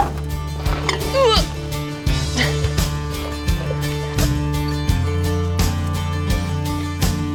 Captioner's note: smooth upbeat music; groans